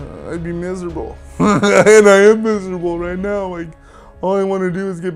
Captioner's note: chuckles